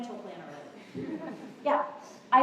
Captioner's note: laughter